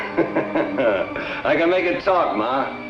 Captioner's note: Al laughs